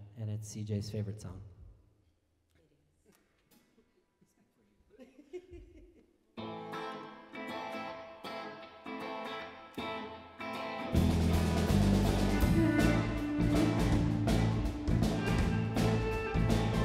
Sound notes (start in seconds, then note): 4.8 laughing; 6.4 lively rock music